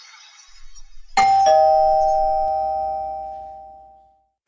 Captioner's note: doorbell rings